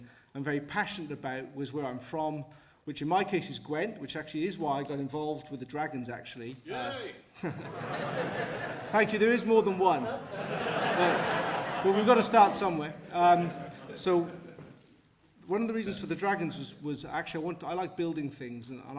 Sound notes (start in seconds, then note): 7.5 support from crowd